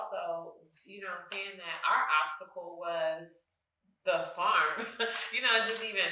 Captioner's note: chuckles